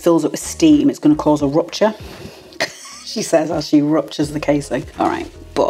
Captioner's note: laugh